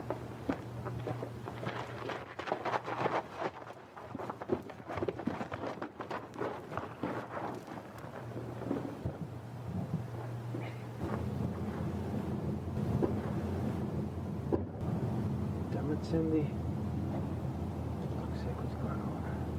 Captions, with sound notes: (Feet dragging) Damn it Cindy